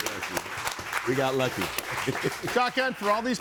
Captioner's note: laughs